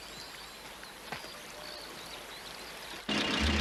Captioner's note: none